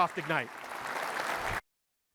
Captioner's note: applause